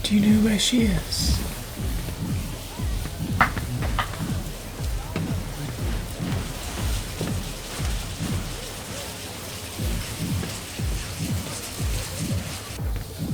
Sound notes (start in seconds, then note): 7.4 water splashing